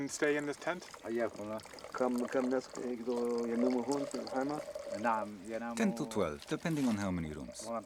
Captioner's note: men speaking in local language